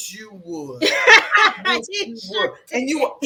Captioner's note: laughs